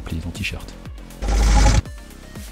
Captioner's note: rewind sound